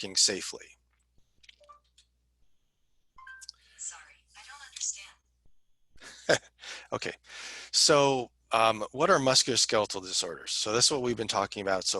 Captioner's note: laughter